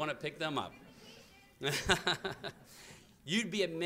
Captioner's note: laughter